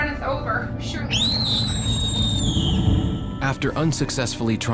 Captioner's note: screams